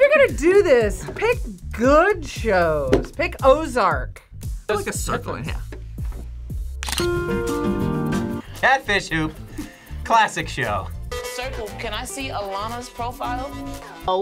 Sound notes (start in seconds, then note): 6.8 camera shutter clicks; 6.8 upbeat music